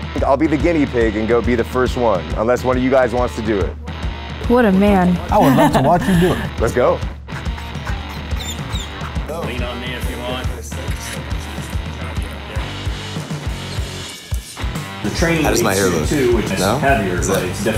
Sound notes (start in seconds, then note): 5.2 laughs; 11.0 energetic music